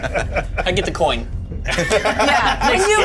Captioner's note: Bobby laughs